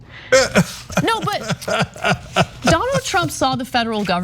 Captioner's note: laugh